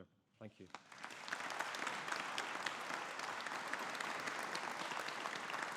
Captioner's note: audience applauding